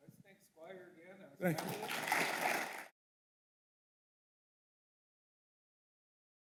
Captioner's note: audience applauding